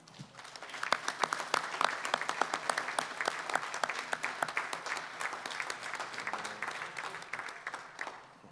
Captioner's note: applause